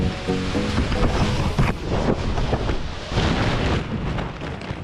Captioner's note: paraglider rustling